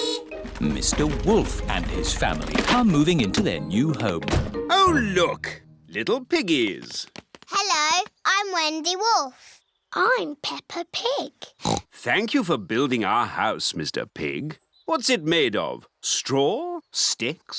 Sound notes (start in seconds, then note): 11.6 oinks